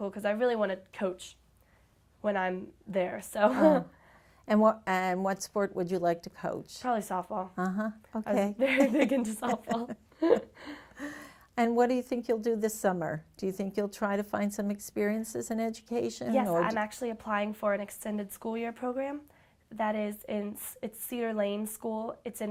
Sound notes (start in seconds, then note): 8.6 chuckles; 8.7 both chuckle